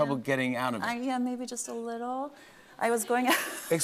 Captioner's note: laughs